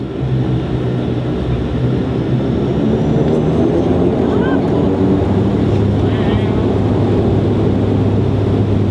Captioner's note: engines roaring